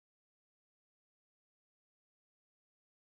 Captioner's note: none